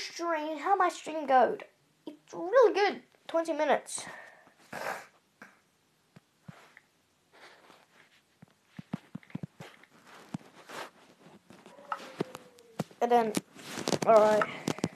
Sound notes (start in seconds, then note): 4.6 snifs; 5.2 some Quiet Tapping